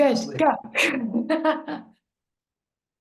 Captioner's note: laughs